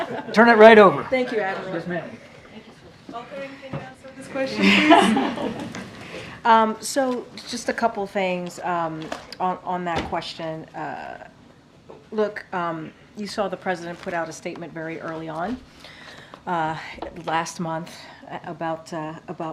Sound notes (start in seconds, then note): 4.4 laughs